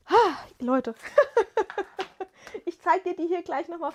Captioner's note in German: gelächter